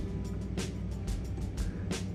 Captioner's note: tsk